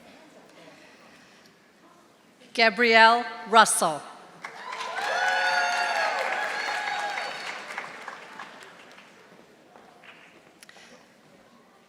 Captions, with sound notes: Gabrielle Russell. (audience applauding)